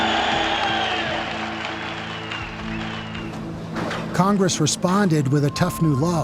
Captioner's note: cheering and applauding